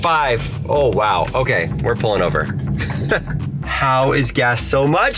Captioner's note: chuckles